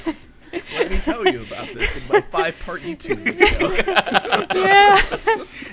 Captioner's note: laughter drowns out speaker